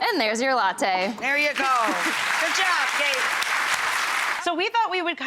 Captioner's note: applause